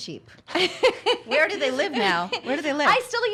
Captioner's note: laughs